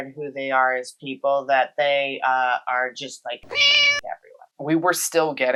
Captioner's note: meow